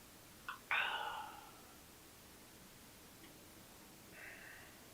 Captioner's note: Jacob sighs